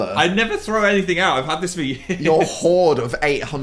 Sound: laughs

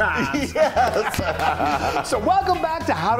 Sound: laughing

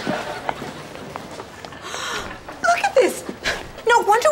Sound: gasps

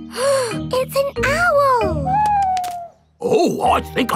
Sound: gasps

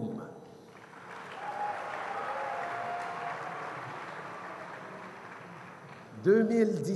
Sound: cheers & applause

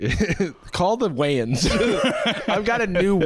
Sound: laughter

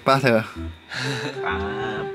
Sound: dry laughing

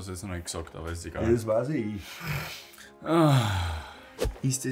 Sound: gasps

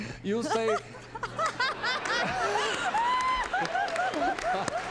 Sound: laughter

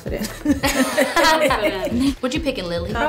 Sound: laughing

